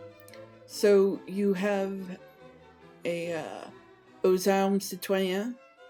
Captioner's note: french